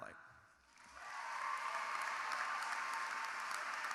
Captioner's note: cheering